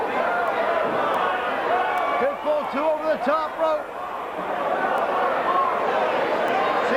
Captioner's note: crowd cheering